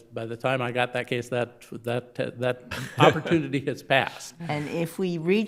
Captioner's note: laughing